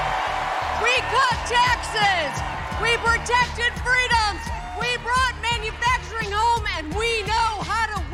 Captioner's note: cheers and applause